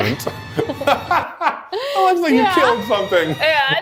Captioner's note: laughs